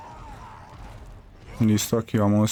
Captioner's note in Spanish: gemido; grito